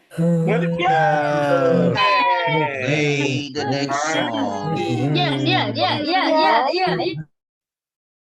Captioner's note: cheering